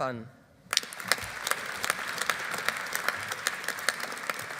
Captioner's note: audience applauding